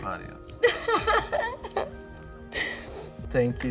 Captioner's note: laughs